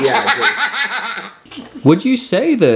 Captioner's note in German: lacht